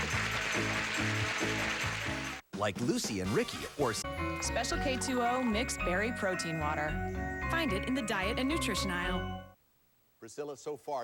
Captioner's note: audience applauding